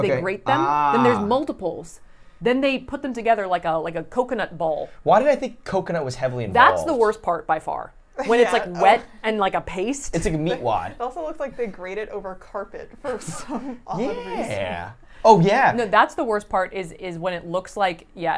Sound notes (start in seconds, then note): 14.0 laughs